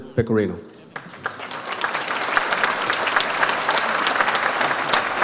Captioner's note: audience applauds